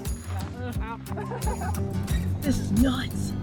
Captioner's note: laughter